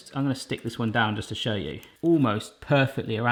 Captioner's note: none